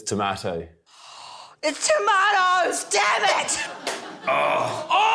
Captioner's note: gasps